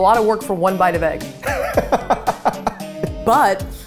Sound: laughing

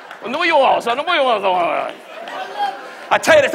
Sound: Don muttering

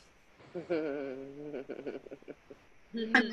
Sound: laughs

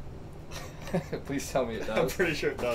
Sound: laughs

